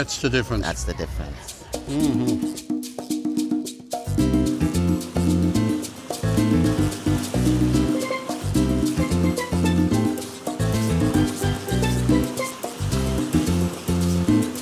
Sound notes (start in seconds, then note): 2.2 boat splashes; 2.2 upbeat music